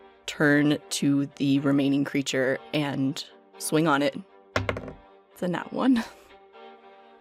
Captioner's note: dice clacks